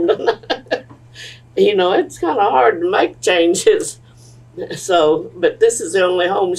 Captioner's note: laughter